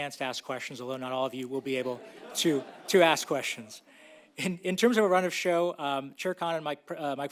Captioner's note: laughter